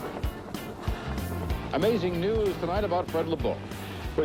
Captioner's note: man on TV